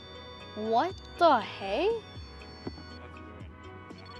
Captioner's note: REM-Pod constant tone